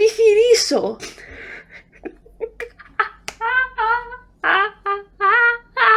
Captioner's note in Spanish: risas